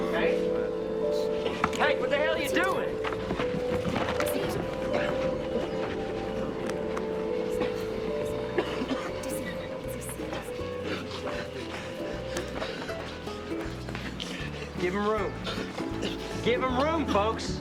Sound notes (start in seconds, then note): 8.5 coughing; 11.5 gasping